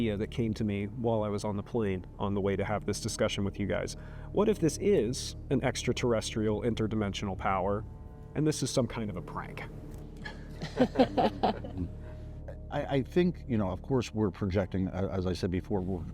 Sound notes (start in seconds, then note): 10.2 laughter